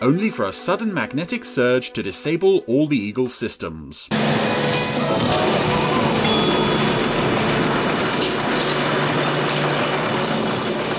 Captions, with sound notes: only for a sudden magnetic surge to disable all the Eagle's systems. (crashing) (bell dings) (intense music)